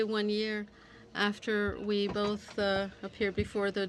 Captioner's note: speaking French